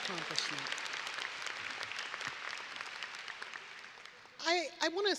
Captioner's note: audience applauding